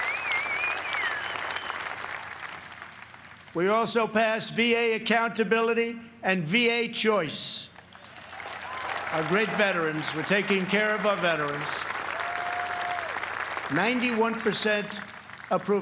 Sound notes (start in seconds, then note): 2.9 applause